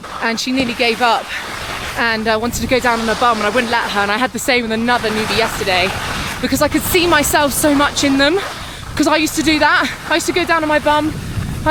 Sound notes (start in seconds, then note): none